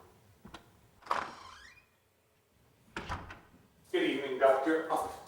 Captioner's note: door creaking